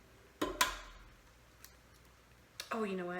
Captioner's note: egg tapping